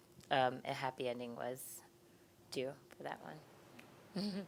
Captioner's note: giggling